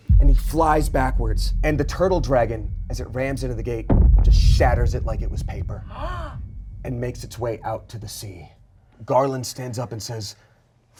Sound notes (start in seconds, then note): 1.1 thump resounds; 3.9 thump resounds; 5.9 gasps